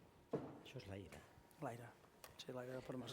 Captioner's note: non-english speech